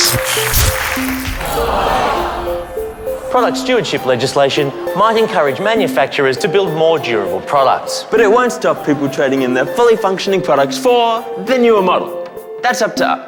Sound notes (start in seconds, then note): 0.7 applause; 2.1 light bulb breaks, audience groans